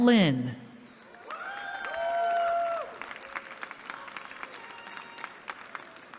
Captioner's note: cheering